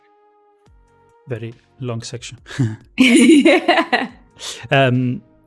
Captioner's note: laughs